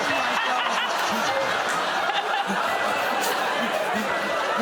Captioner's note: laughter